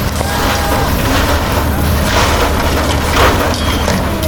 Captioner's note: machine clanging